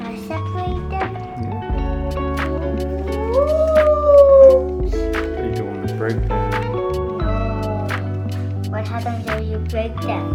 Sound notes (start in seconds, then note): 2.9 excited sounds